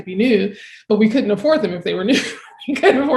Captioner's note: chuckling